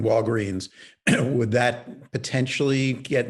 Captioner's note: clears throat